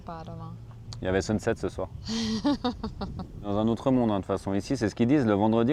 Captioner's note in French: rires